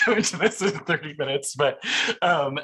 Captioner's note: laughs